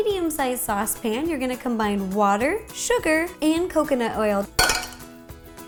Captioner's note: crash